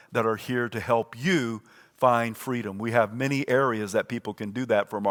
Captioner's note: none